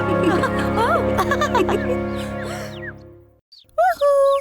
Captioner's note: laughing